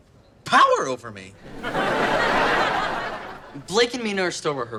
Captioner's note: audience laughter